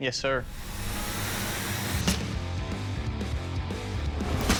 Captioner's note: chopping